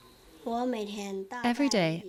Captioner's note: speaking in foreign language